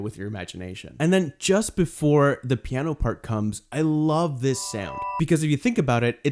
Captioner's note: quick high sound plays